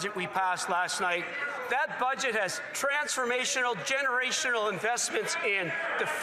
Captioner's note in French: voix de l'interprète